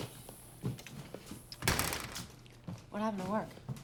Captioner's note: door closes